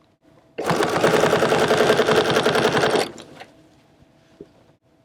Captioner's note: machine whirring